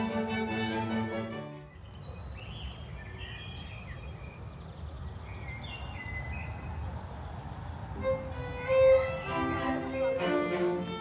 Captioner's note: morning birds tweeting